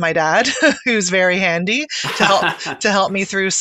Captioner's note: laughing